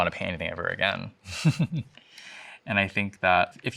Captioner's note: chuckles